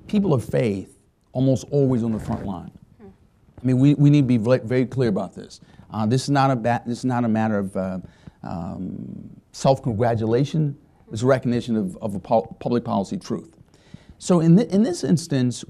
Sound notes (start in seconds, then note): none